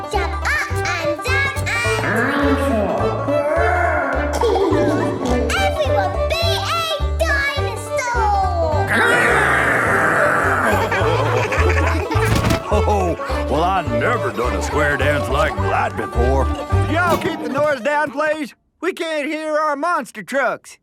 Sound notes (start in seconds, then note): 1.9 laughing; 8.8 laughing